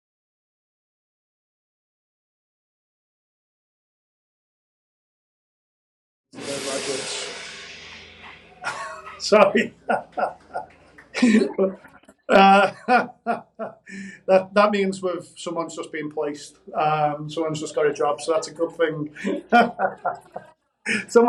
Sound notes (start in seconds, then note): 8.2 laughs; 18.2 laughs